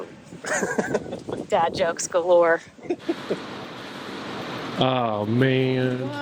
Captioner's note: chuckling